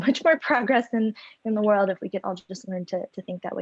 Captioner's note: giggles